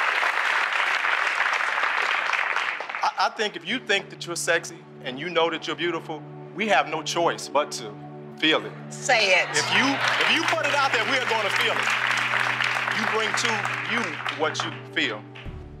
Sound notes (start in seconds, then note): 8.2 calm music; 9.5 applause